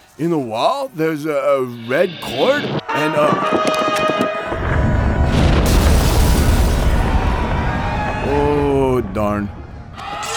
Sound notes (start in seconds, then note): 2.8 triumphant horn music; 3.2 stone crumbling